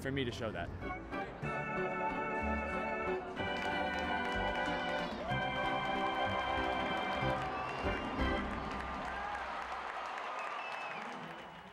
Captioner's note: cheers